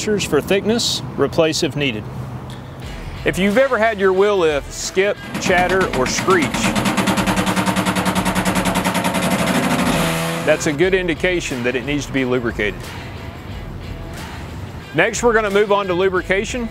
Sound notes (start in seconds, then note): 2.7 upbeat music; 5.1 wheel lift screeching; 12.8 upbeat music